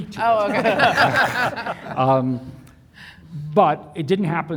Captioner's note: panelists laughing